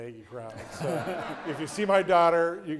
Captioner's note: audience laughing